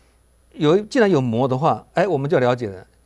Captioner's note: in Mandarin